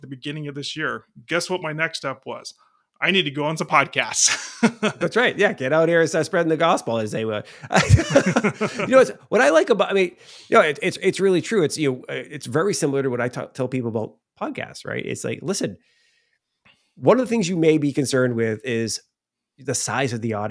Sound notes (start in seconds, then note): 7.5 laughing